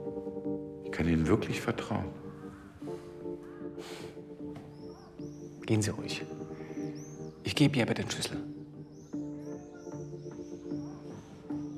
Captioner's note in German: schnauben